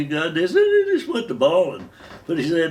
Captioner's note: faux crying